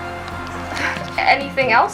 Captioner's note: interviewer sighs